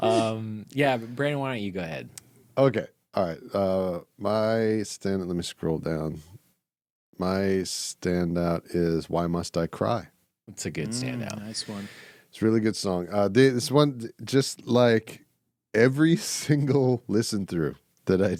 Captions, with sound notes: (laughs) Yeah, but Brandon, why don't you go ahead? Okay, all right. My stand, let me scroll down. My standout is "Why Must I Cry?" That's a good standout. Nice one. It's a really good song. This one, just like every single listen-through that I did,